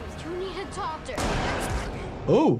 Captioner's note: gun firing